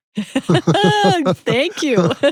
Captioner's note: laughing